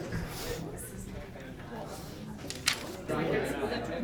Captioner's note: people Chattering